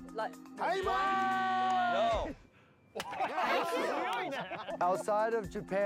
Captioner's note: speaking Japanese